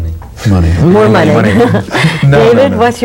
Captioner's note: laughs